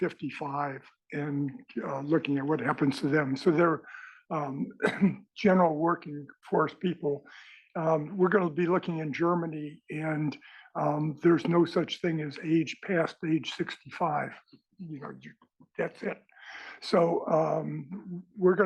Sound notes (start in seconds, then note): 4.6 cough